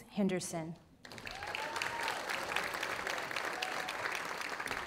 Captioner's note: audience applauding